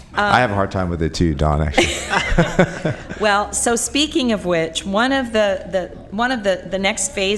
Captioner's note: laughter